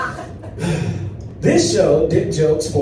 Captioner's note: audience laughs; sighs